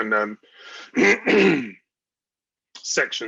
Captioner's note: clears throat